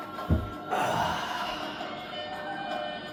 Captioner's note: sigh